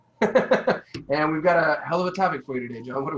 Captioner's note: laughing